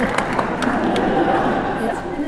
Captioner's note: laughter